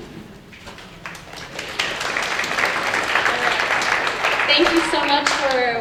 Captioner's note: applause